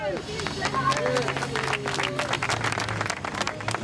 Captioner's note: crowd claps